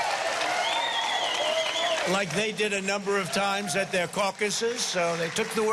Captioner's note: cheering and applause